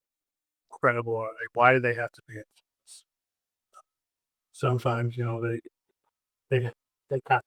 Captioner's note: audio cuts out